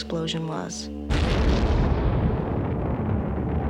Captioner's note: explosion